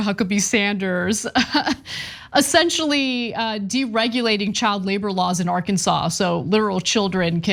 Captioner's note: laugh